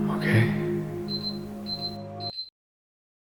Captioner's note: beepin